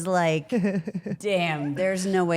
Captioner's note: Rhea laughs